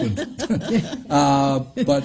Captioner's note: laughs